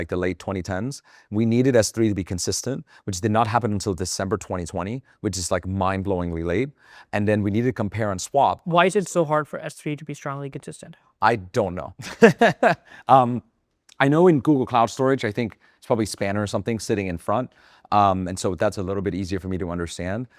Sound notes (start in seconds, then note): 12.0 laughs